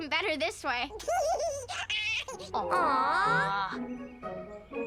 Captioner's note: Tucker giggles